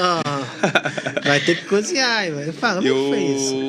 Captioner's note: risadas